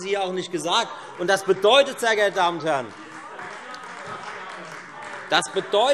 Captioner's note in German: Beifall Freie Demokraten - Unruhe